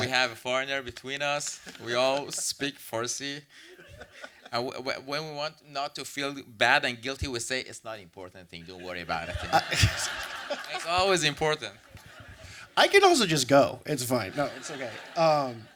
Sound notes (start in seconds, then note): 8.8 audience laughs